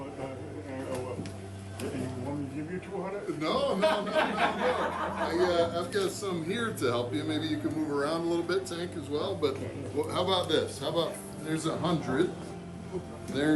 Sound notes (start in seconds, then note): 3.6 everyone laughing